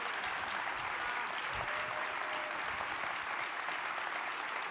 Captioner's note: crowd continues applauding